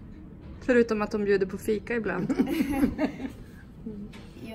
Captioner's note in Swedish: Skrattar